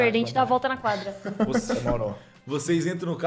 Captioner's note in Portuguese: risada